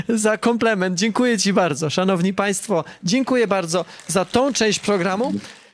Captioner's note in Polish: śmiech; oklaski